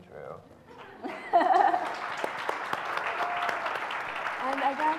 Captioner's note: audience applauds